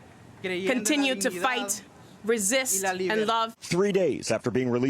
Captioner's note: speaking spanish